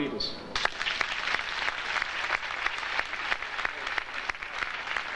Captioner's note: audience applauding